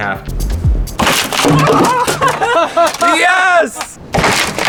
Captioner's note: board cracking